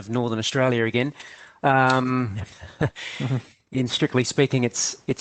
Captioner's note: chuckles